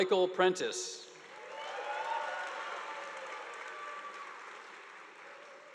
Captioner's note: audience applauding